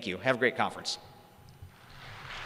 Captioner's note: crowd applauds